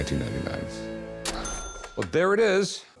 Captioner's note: cash register bell